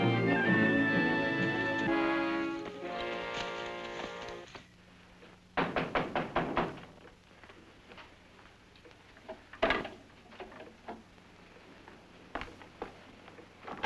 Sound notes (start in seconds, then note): 5.6 knock